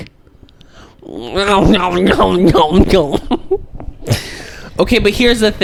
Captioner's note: mouth noises